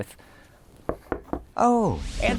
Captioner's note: knocking